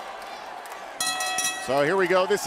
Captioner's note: bell ringing